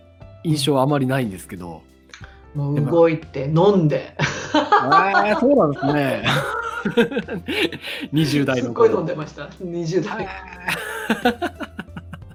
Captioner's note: laughs